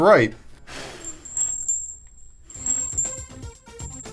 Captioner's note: chiming